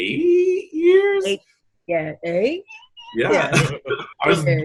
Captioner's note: mimics screeching